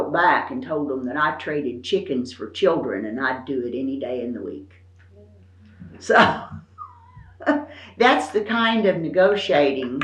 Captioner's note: laughs